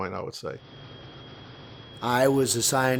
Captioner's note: jet engine idling